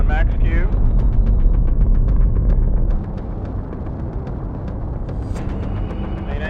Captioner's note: dramatic music; rocket engine roaring